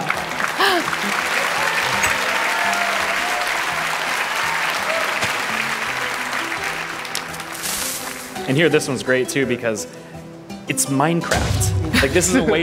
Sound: laughter; applause

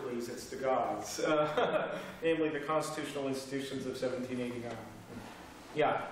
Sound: laughter

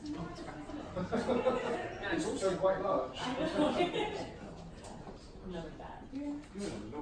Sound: laughing

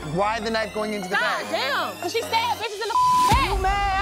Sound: beep

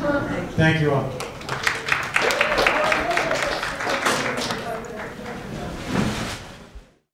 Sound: applause

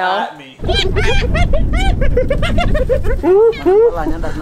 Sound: hyenas laughing

